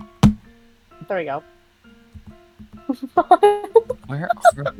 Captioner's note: laughs